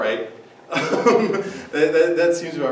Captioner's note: laughs